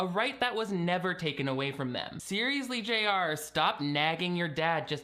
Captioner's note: none